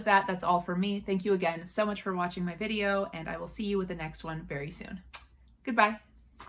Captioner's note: kisses